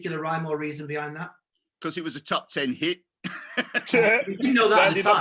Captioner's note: laughs